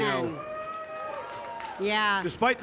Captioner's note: audience cheering